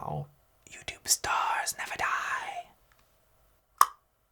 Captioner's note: tongue pops